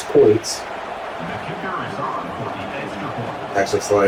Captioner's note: crowd Noises